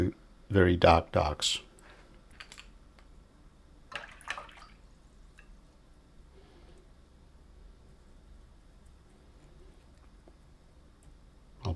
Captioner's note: silence